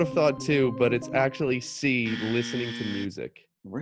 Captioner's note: buzzer rings